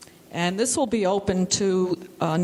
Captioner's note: none